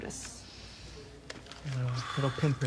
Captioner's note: inhales and exhales deeply